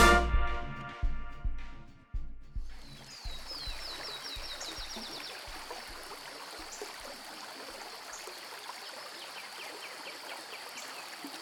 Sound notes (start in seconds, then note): 2.6 birds chirping; 5.8 water trickling